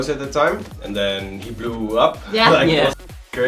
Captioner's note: laughs